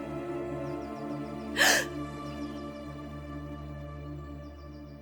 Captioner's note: Tiffany gasps